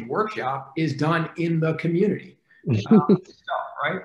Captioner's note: faintly speaking